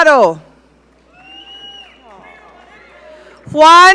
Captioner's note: audience cheering